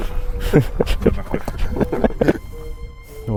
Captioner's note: laughing